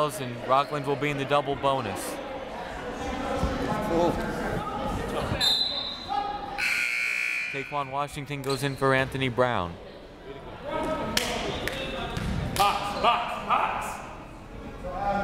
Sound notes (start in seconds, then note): 5.4 whistle; 6.6 buzzer